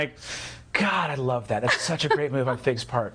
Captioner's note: laughing